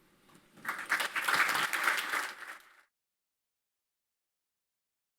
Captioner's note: audience applauding